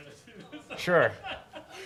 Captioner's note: laughs